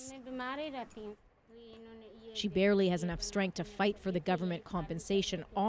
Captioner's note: speaking Foreign Language